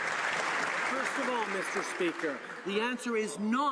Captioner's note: some Applause